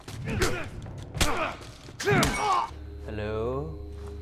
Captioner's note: grunting